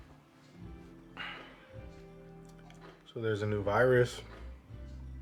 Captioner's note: sighs